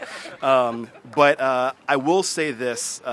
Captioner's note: laughter